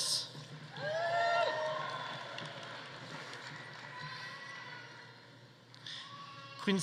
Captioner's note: audience applauding; audience cheering